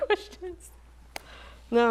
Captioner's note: chuckles